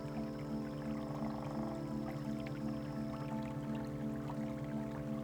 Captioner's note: water flowing